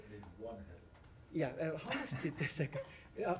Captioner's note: laughter